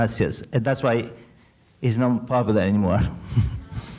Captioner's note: laughs